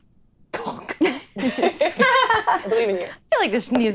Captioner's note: laughing